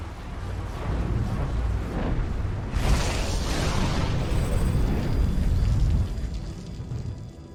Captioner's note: rumbling continues